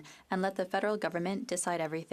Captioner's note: speaking French